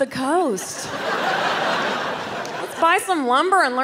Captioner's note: crowd laughs